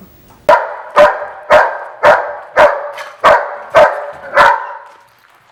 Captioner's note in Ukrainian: гавкіт собаки